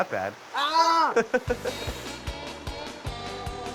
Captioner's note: laughter